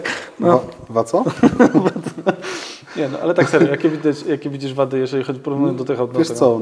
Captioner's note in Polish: śmiech